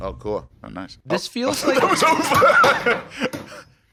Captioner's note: laughing